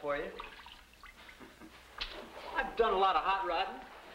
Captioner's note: laughing